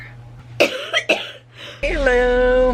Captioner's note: coughing